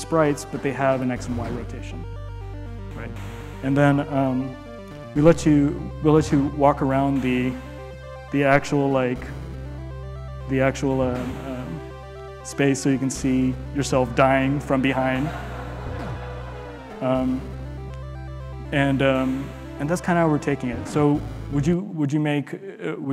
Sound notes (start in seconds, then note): 14.4 audience laughing